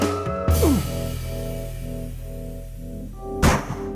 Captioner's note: Sid grunts; gunshots